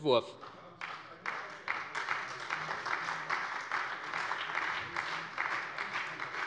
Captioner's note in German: Beifall bei der SPD